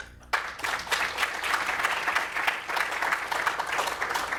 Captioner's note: applause